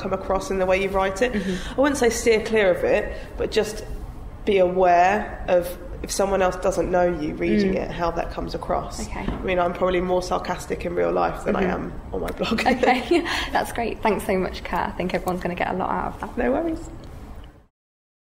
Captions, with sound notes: across in the way you write it. I wouldn't say steer clear of it but just be aware of if someone else doesn't know you reading it, how that comes across. I mean, I'm probably more sarcastic in real life than I am on my blog [giggles] Okay, that's great. Thanks so much, Kat. I think everyone's going to get a lot out of that.